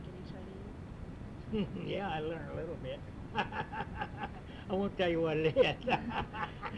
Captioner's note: laughs